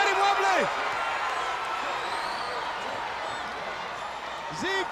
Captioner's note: crowd yelling